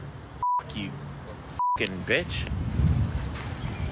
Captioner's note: beep